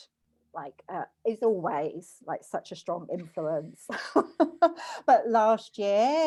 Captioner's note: laughs